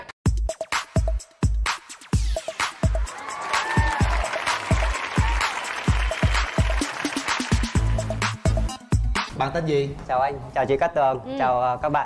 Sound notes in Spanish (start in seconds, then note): 2.6 Aplaudir